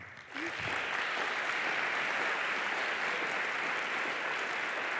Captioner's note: applause